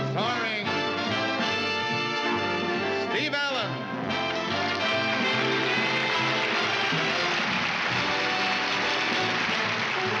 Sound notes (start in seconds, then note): 4.6 applause